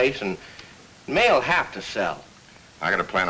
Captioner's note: none